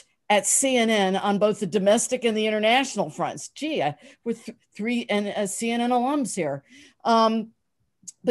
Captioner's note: none